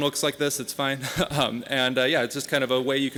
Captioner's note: laughing